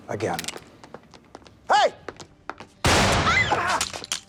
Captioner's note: screams